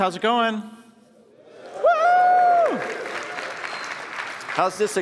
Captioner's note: cheers and applause